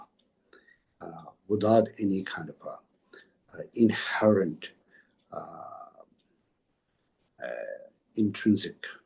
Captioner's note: tibetan